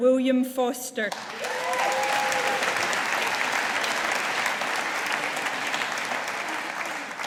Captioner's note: audience applauding